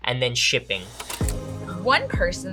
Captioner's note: shutter clicking